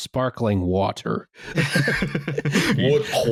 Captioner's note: laughter